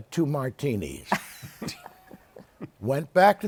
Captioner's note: laughs